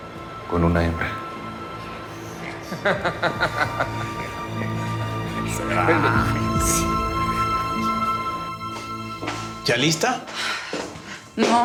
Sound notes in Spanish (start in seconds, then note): 2.6 risas